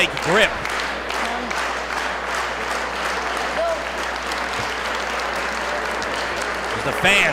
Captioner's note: applause